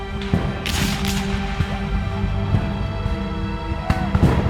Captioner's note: gunshots cracking